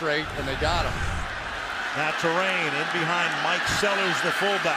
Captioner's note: cheering